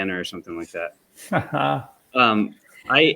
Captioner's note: laughs